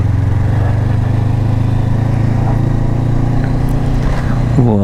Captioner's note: engine thrum